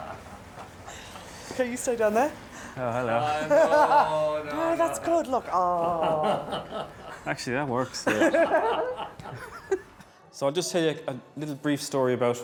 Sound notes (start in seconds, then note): 5.4 photographer laughing; 8.1 bride laughing